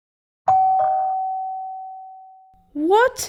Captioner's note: doorbell